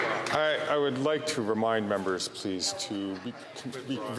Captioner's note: some Applause